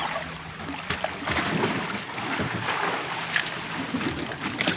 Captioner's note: water splashing